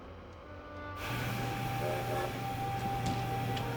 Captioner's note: train whistle blows